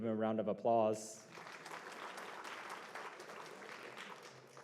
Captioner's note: applause